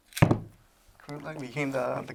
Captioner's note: chair knocking